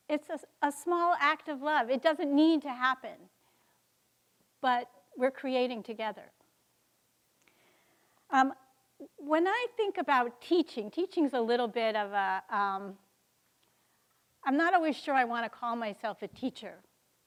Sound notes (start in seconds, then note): none